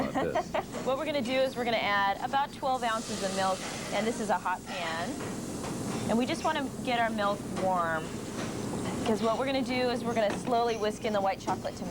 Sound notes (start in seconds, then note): 0.0 laughing; 5.1 sizzling